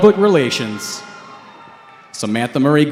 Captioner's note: cheering